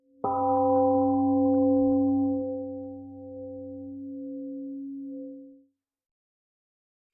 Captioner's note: temple gong rings and fades